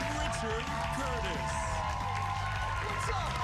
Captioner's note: cheers and applause